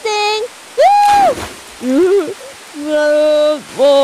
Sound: saints cheering

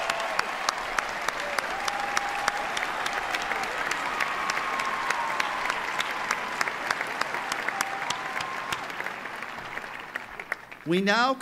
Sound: applause

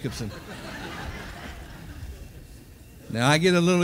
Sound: audience laughing

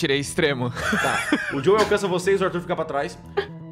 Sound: laughs

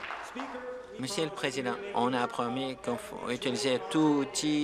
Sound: applause

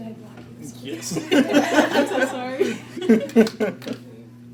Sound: chuckles

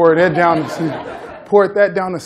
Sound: laughter

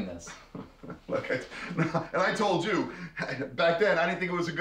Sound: laughs

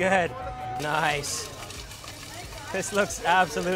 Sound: rattling

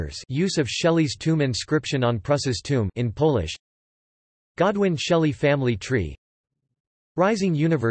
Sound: in Polish

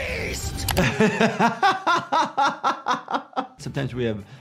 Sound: laughs

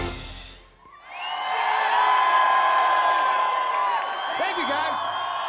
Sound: crowd Roars

